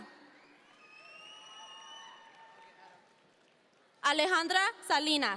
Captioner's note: audience members cheer